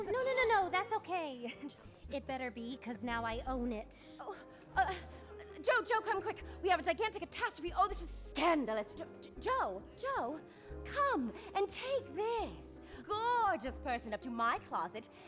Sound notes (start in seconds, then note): 4.1 stutters